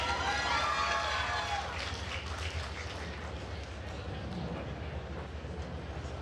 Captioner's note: attendees cheering and applauding